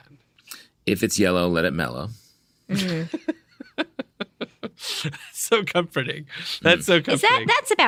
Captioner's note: laughter